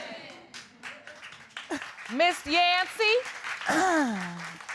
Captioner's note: audience applauding; clears throat